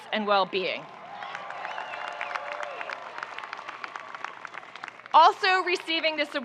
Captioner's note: audience cheering and applauding